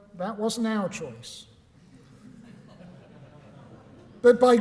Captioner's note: laughter